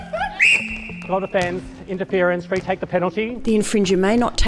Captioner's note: whistle